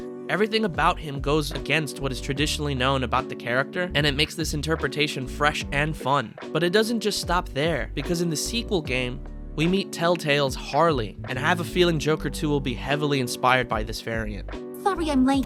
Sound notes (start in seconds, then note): none